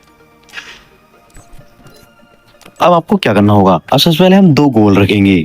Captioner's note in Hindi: नाक से की जाने वाली आवाज़